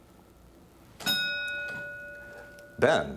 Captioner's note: ding